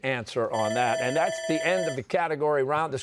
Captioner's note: bell ringing